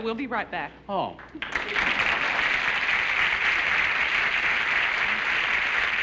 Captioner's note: applause